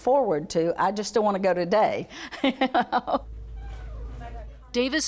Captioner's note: laughing